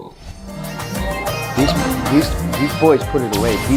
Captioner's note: chug